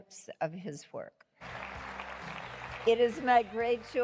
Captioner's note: applause